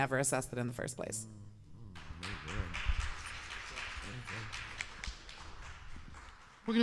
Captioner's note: applause